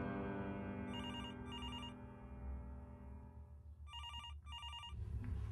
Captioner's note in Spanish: timbre de telefono